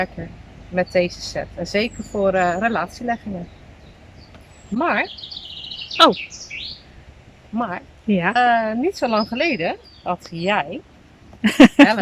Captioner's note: laughs